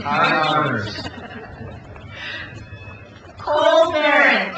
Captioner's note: crowd cheers